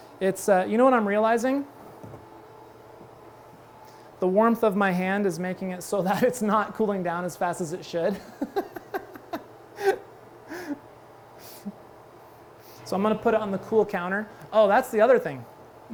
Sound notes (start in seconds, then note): 8.2 laughs